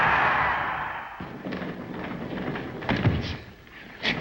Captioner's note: mat bangs